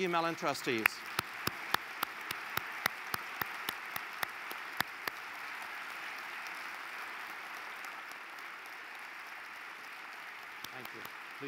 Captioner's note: applause